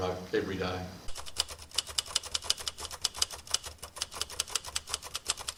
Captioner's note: typewriter clicking